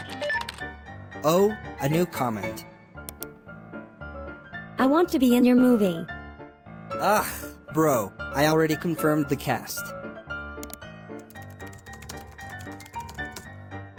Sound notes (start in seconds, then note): 3.0 click; 6.9 groans